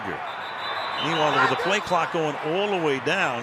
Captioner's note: whistles